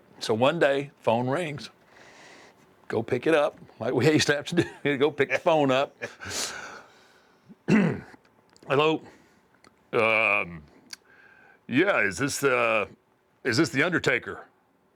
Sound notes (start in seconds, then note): 7.5 cough